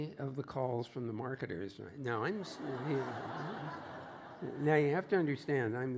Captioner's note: laughter